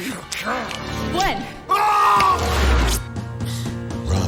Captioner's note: shouting